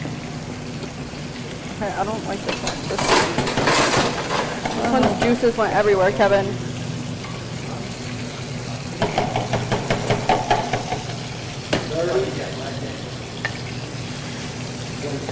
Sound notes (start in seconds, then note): 2.6 clattering; 9.0 tapping